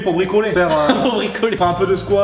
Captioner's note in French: rire